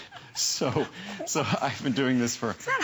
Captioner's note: laughter